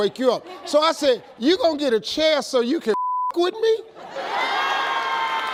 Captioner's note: beep; audience laughs